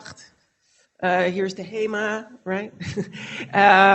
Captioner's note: foreign language